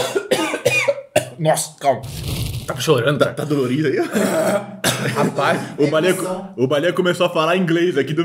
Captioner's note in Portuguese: tosse